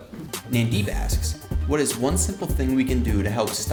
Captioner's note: voiceover